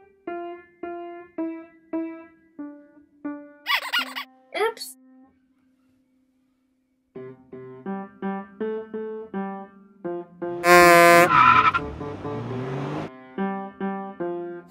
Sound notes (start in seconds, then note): 3.1 squeak noise